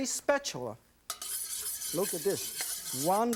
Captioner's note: metal scraping